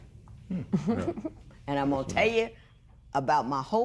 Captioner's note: chuckles